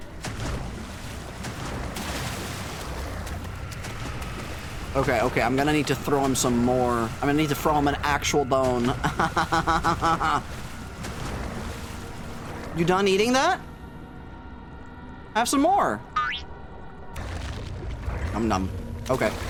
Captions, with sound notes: [Aggressive crunching and splashing] Okay okay I'm gonna need to throw him some more. I'm gonna need to throw him an actual bone. Ahahahaha. [More crunching and splashing] You done eating that? Have some more. [Boink sfx] [Crunch munch] Num num. Okay.